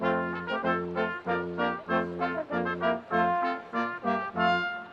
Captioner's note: orchestral music continues; students chattering